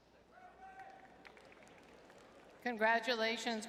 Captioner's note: audience cheering